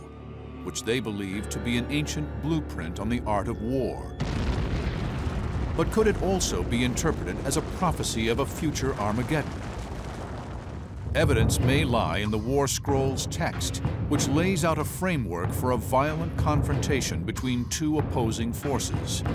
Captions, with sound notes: they believe to be an ancient blueprint on the art of war. [explosion] But could it also be interpreted as a prophecy of a future Armageddon? Evidence may lie in the "War Scroll's" text, which lays out a framework for a violent confrontation between two opposing forces.